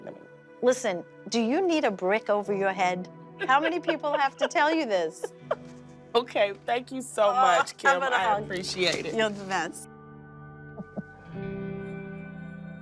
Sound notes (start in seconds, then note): 1.8 laughing; 10.6 uplifting music